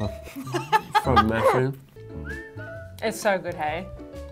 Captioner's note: laughs